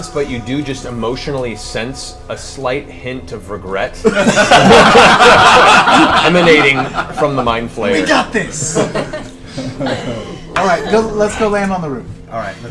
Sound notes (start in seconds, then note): 4.0 all laugh